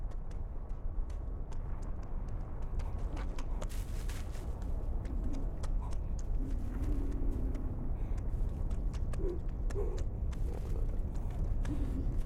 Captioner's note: paw prints squish in mud